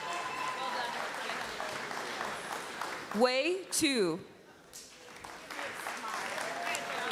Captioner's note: applause